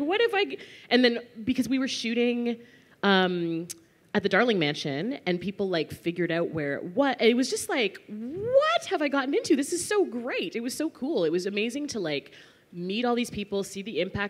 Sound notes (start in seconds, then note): none